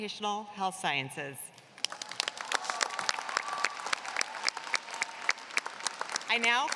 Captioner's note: applause